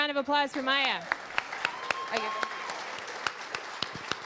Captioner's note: applause